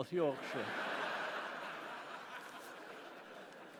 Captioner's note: laughter